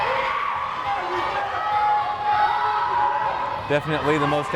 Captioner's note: crowd cheering